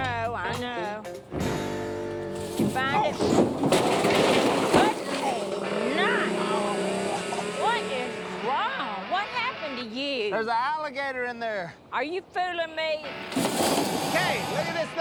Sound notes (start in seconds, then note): 2.2 clattering; 6.3 growling